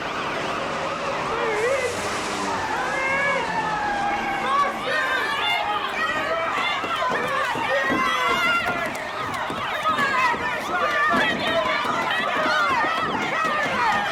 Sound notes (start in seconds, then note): 0.1 sirens wailing; 4.8 tires screeching; 6.6 pounding on car; 7.3 people yelling; 11.0 sirens wailing